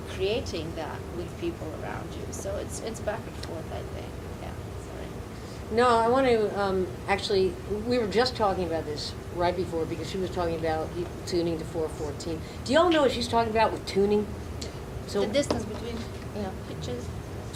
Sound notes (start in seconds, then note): none